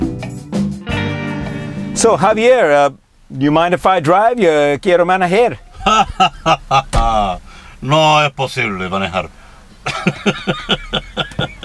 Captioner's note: laughs